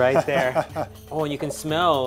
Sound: laughing

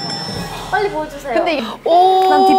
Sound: deep breaths

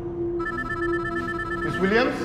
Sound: phone ringing

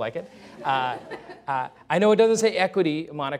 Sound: laughter

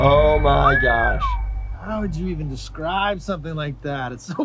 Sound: whistles

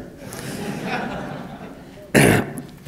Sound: laughter

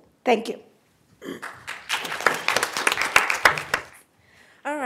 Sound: applause

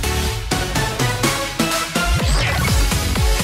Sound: more funky sounds

